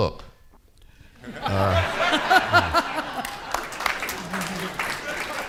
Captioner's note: audience laughing